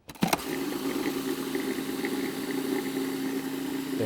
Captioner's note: motor roaring